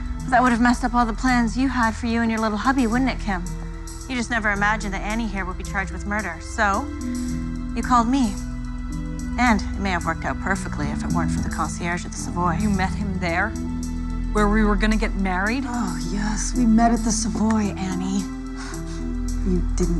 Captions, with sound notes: ALL THE PLANS YOU HAD FOR YOU AND YOUR LITTLE HUBBY, WOULDN'T IT, KIM? YOU JUST NEVER IMAGINED THAT ANNIE HERE WOULD BE CHARGED WITH MURDER. SO YOU CALLED ME. AND IT MAY HAVE WORKED OUT PERFECTLY IF IT WEREN'T FOR THE CONCIERGE AT THE SAVOY. YOU MET HIM THERE? WHERE WE WERE GONNA GET MARRIED? [SIGHING] YES, WE MET AT THE SAVOY, ANNIE. YOU DIDN'T ACTUALLY THINK